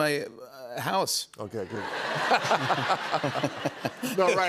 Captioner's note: laughter